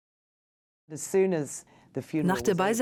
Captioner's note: voiceover